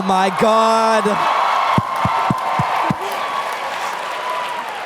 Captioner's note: crowd Goes Wild